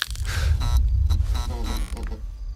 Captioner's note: loud cracking of bones; electricity buzzes and crackles